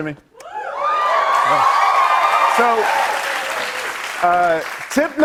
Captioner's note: cheers and applause